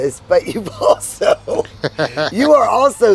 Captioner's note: laughing